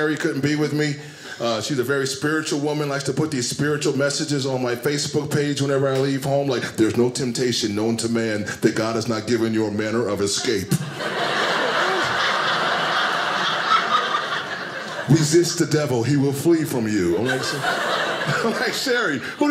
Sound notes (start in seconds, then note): 10.2 audience laughing